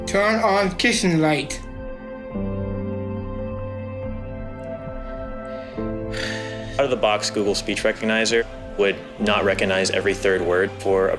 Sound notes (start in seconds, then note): 2.3 soft music; 6.0 sighs